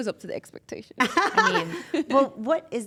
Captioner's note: laugh